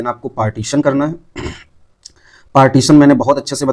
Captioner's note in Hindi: गला साफ़ करने की आवाज़